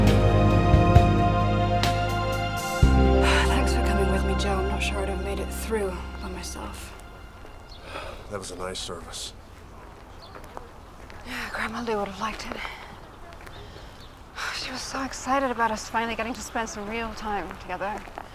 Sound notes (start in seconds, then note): 2.9 sighs